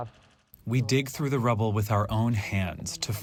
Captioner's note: through translator